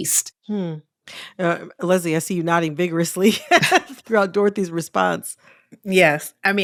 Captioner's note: laughter